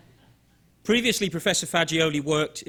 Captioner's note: audience chuckling